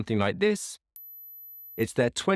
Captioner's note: ringing